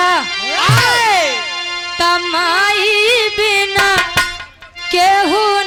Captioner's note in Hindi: चीखने की आवाज़